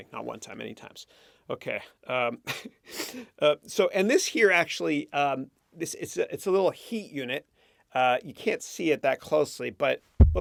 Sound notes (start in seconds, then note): 2.3 chuckles